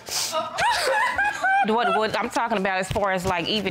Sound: crying

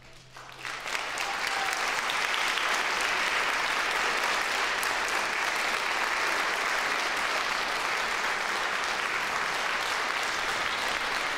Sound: applause

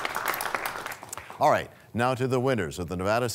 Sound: applause

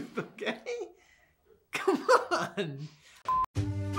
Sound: laughing

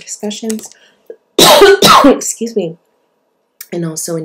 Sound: coughs

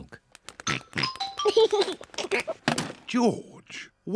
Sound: oinks and giggles

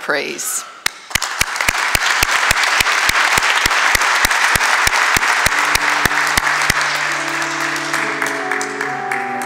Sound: applause

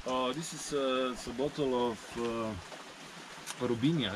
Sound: speaking in a foreign language

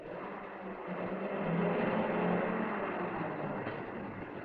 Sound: motor revving

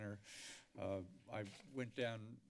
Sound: inhales

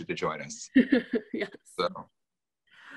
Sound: laughs

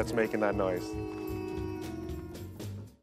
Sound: howling

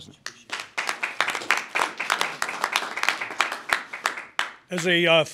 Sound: applause

